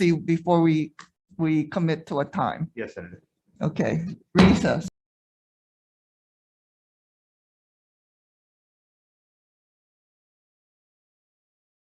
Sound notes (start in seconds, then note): 7.1 gavel bangs